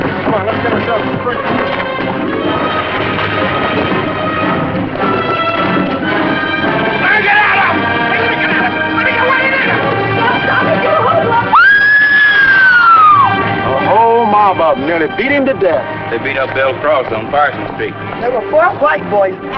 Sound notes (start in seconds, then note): 11.5 scream